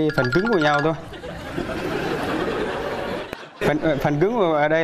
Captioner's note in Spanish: risas